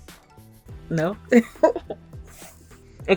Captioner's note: laughs